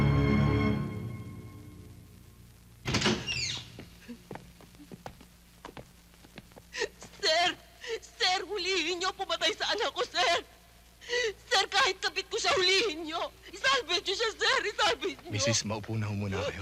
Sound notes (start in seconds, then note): 2.5 woman sobbing; 2.8 door opens